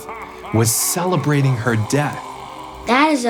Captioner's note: evil laughter